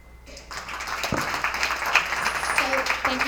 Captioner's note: attendees applauding